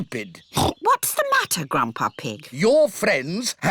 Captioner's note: oinks